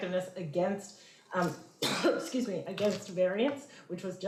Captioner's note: coughs